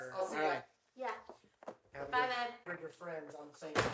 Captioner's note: none